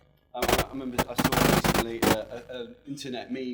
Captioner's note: loud audio distortion